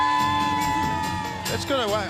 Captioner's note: crowd chatter